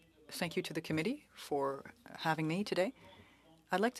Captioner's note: speaking French